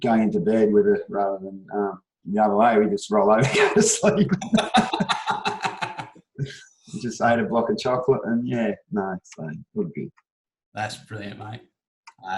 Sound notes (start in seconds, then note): 3.4 laughter